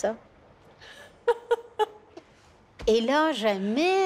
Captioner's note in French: rire